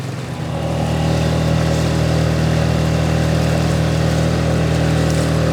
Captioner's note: boat engine revving